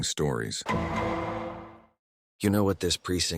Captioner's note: gavel Gong